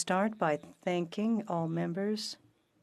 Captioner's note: speaking French